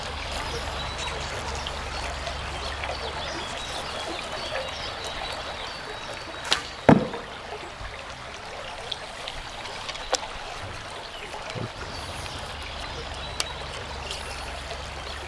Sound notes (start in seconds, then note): 1.8 birdsong; 6.8 arrow hits